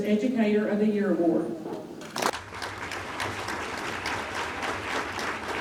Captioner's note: audience applauding